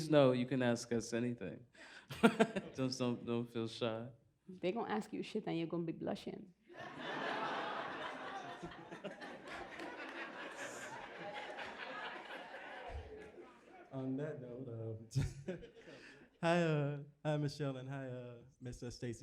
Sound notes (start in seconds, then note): 2.1 laughs; 6.7 laughter